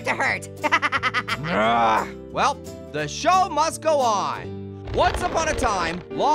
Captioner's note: groans